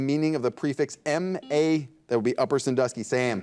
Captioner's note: buzzer dings